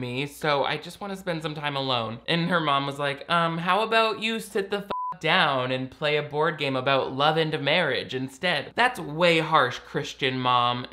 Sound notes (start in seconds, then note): 4.8 beep